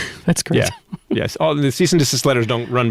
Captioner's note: laughing